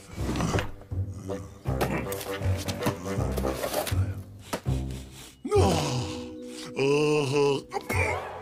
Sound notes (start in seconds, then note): 4.2 smelling